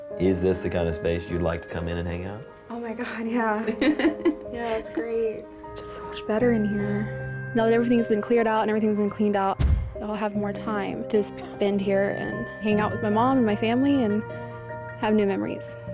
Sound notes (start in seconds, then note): 3.5 laughs